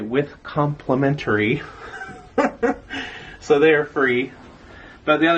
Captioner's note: laugh